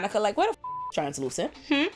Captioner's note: beep